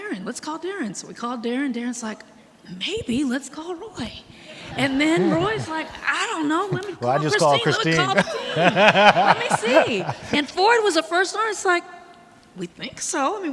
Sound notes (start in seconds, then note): 4.4 audience laughing; 9.1 laughs